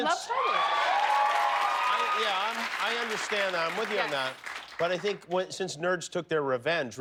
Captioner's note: cheers and applause